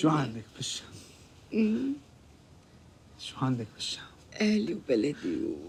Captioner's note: speaking in foreign language